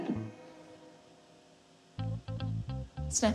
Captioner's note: tape hisses softly